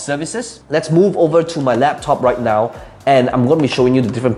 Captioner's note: rattling laptop